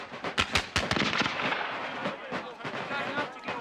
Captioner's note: cannon blasts